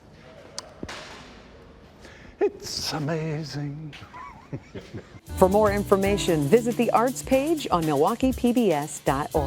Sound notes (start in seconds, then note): 3.9 chuckles